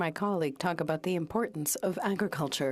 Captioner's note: speaking French